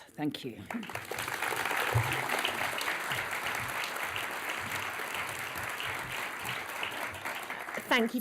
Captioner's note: applause